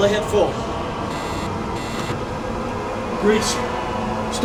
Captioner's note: phone buzzes